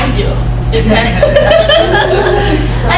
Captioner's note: crowd laughs